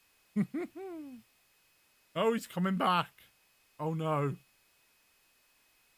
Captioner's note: laughs